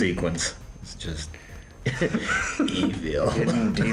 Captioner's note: laughing